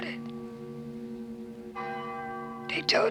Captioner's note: bell ringing